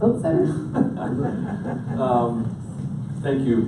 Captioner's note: all laughing